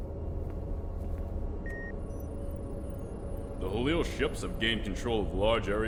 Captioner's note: machine beeping